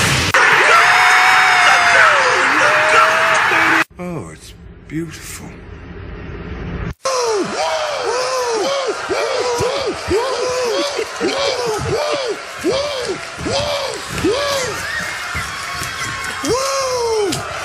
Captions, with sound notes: [Cheering strongly intensifies again] Oh, it's beautiful [Yelling "Woo" at each other in masculine manor]